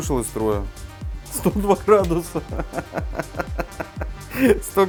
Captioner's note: giggles